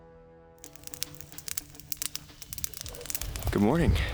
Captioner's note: fire crackling